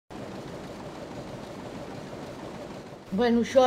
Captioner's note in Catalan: soroll de màquina en marxa